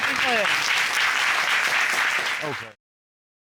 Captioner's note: applause